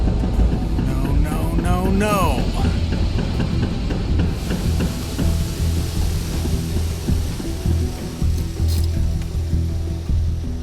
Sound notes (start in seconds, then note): 3.3 car chugging; 5.9 radiator hisses